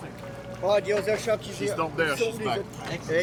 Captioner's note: divers speaking French